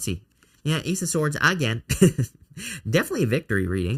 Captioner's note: laughs